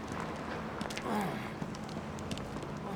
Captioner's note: grunting